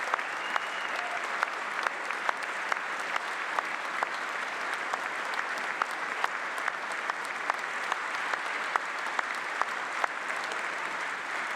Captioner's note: applause